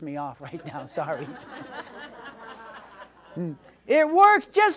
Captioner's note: audience laughs